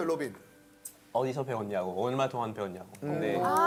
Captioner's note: French